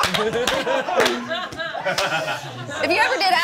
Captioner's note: all laughing